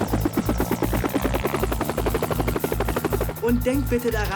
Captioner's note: helicopter taking off